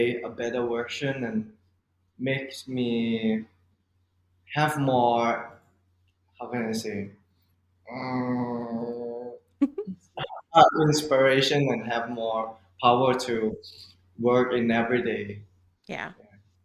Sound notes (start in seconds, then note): 7.8 adorable thinking noise